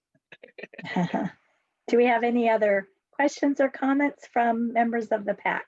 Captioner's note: laughs